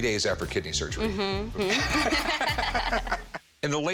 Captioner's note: both laugh